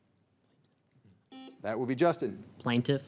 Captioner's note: signal beeps